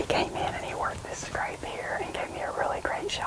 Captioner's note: whispering